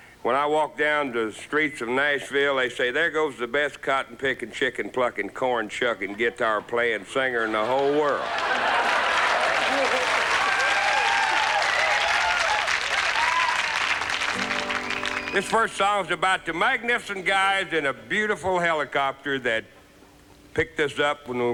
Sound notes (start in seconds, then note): 8.6 laughter; 10.5 cheers, applause